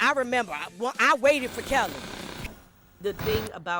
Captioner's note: static hums